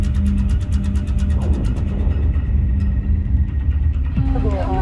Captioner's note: loud explosion